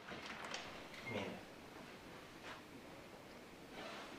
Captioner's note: door opens